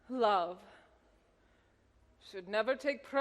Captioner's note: none